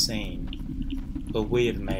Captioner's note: soft clacking